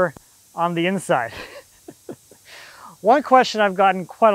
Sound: laughing

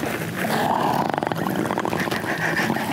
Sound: gurgling; laughter

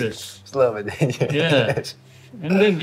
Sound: laughs

